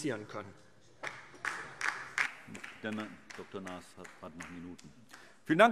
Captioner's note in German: Beifall DIE LINKE